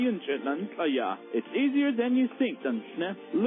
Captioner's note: foreign language spoken; foreign language spoken